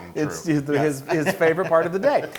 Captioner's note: laugh